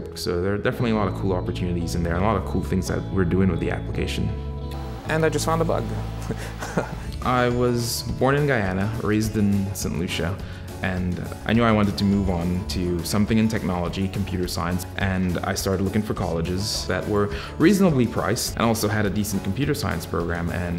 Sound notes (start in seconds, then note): 6.1 laughing